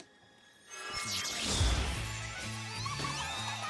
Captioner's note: zap